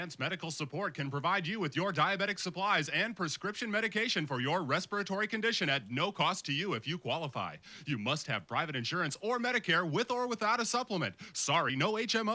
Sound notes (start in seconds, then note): none